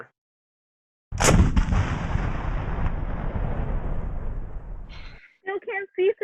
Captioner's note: boom